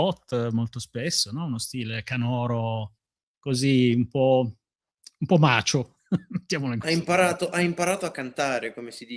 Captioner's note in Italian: risate